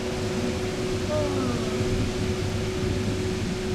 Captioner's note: yawns